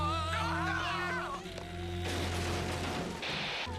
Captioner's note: moaning; aliens screaming